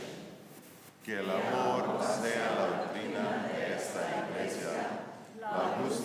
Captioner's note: speaking in foreign language